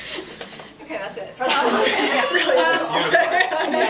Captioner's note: laughs